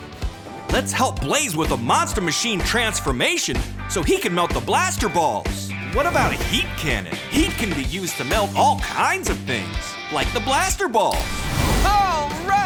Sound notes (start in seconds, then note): none